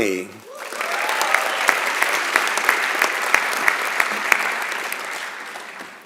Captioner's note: applause